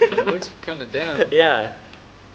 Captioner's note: crew laughing